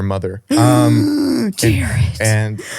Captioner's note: gasps